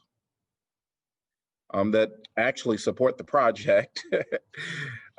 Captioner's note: laughter